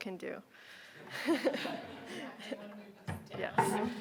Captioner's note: audience laughing